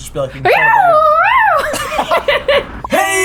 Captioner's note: laughter